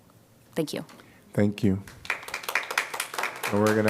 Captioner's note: applause